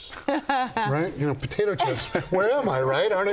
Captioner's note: laughter